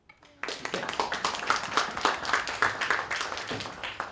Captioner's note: applause